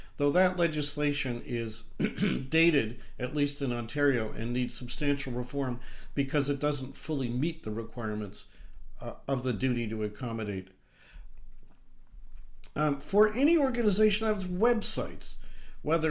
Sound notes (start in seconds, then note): 2.0 clears throat